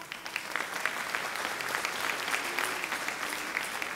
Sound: audience clapping

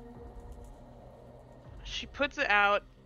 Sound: none

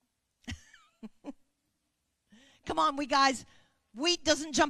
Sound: chuckling

